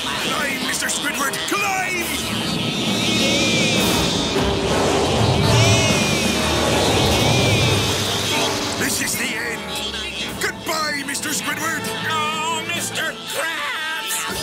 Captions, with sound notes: Climb, Mr. Squidward, climb! [anchovies screaming] [crashing] This is the end! Goodbye, Mr. Squidward! Oh, Mr. Krabs!